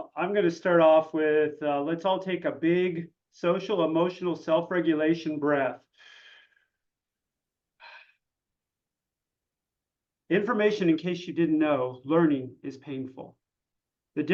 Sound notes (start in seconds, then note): 5.8 breathes deeply